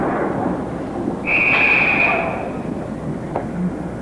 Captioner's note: whistle blows